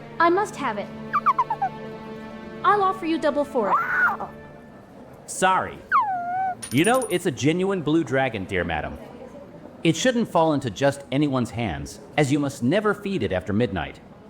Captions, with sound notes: I must have it. I'll offer you double for it. (Little dragon cries) Sorry. You know it's a genuine blue dragon dear madam. It shouldn't fall into just anyone's hands as you must never feed it after midnight.